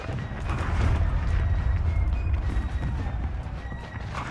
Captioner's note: explosion booms